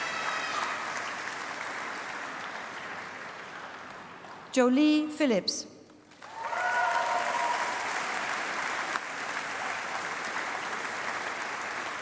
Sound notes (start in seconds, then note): 5.9 applause